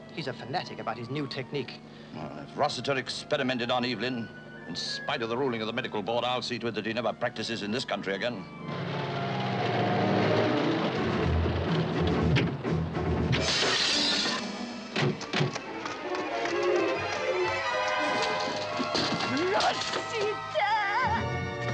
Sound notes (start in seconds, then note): 8.5 car engine rumbles; 11.4 tense orchestral music; 13.4 glass shatters